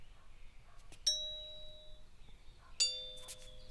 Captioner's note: doorbell rings